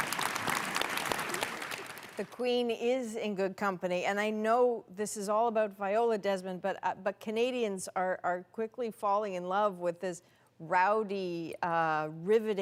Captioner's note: applause